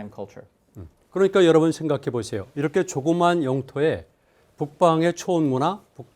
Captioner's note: speaking in Korean